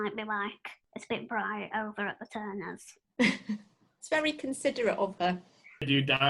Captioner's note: laughter